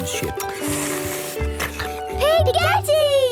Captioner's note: slurping